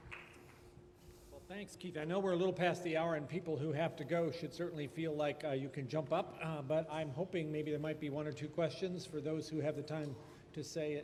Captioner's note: applause